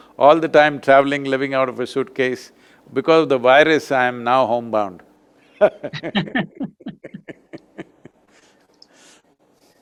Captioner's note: both laugh